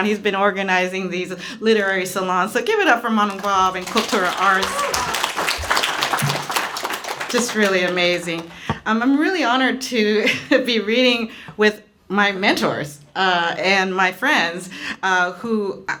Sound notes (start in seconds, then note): 5.3 applause